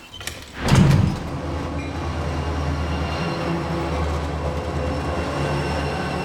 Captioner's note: door opening and closing; train